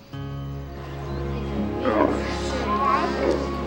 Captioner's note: grunting